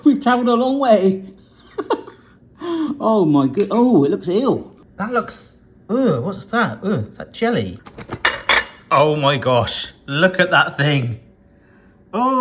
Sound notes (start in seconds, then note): 1.7 laughing; 7.9 plate clattering